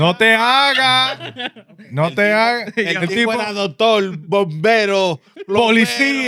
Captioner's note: speaking In Foreign Language